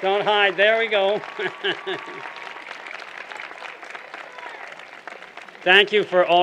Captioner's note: applause